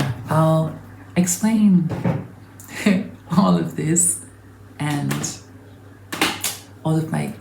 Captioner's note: chuckles